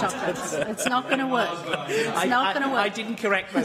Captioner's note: laughter